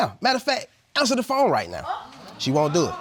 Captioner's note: audience gasping